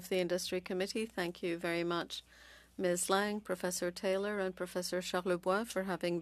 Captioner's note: speaking French